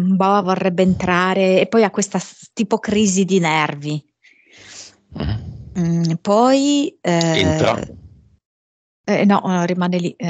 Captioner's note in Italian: Applauso